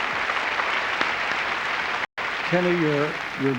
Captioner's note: applause